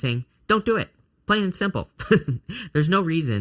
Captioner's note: laughs